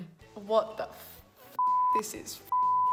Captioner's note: beep